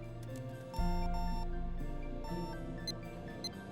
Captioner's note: computer beeping